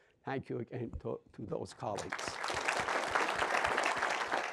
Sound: clapping

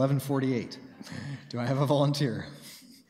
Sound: chuckles

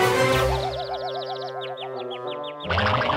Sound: birds

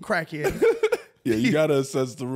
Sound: laughing

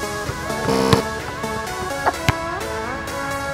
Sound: buzzing

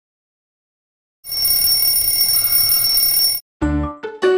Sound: alarm ringing

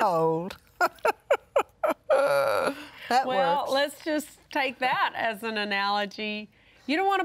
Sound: laughs

